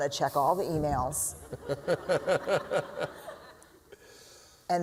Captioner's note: laughter